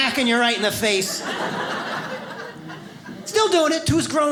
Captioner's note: audience laughs